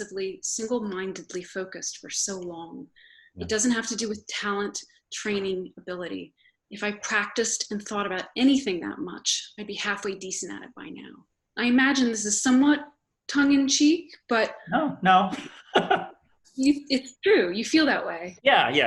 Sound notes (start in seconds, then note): 14.7 laughs